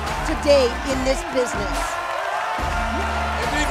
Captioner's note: cheers and applause